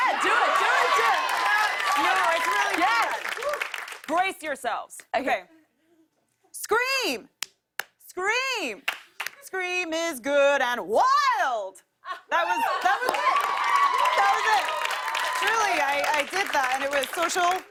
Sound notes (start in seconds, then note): 0.0 cheers and applause; 6.7 claps; 8.8 claps; 12.4 cheers and applause